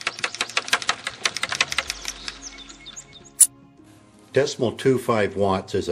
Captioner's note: windmill spinning, birds chirping